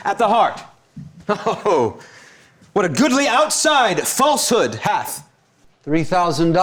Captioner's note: chuckles